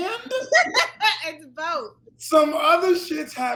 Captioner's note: laughs